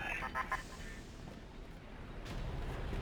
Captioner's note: laughing